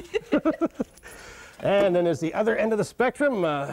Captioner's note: laughter